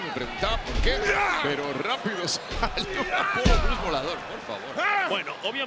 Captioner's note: laugh